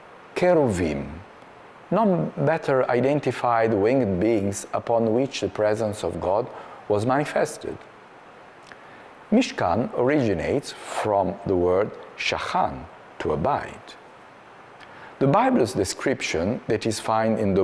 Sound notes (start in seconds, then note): 11.9 Hebrew